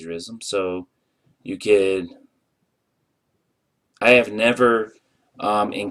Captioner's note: pause